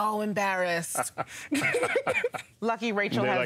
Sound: laughter

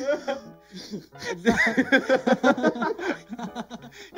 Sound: contine laughing

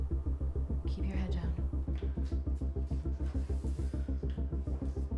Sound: Caleb shuffling

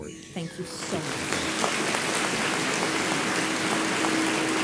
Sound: audience applauds

